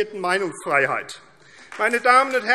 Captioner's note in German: Beifall AfD